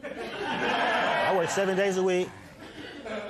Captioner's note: laughter